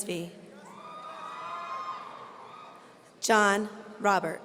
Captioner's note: audience cheering